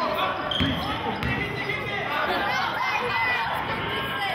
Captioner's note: yelling